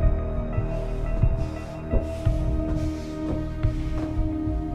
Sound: heavy breathing

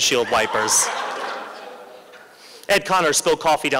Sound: laughter

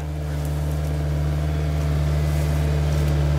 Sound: engine noise

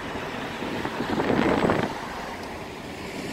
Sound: wind blowing

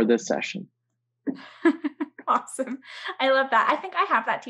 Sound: chuckles

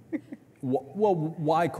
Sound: chuckling

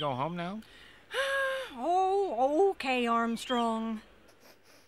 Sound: sighs

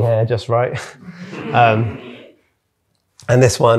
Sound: audience laughing

